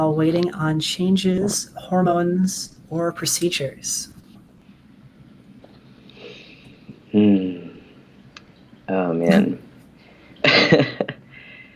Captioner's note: laughter